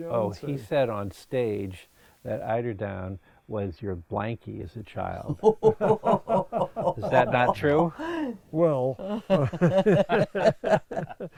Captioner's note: laughs